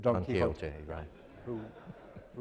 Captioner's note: crowd laughing